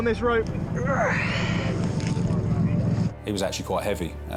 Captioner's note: boat droning; casualty groans